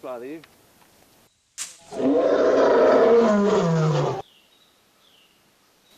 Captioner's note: roar